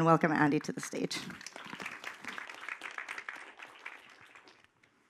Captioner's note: applause